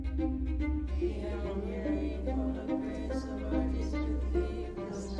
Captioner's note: nuns praying